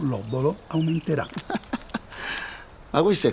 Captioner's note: Omero laughs